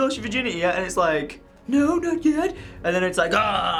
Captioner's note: wimpy voice